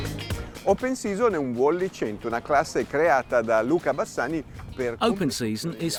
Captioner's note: speaking foreign language